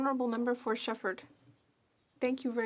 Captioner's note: speaking in French